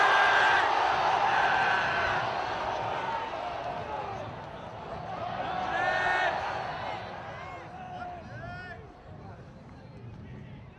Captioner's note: cheers